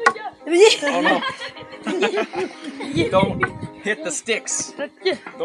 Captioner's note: all laughing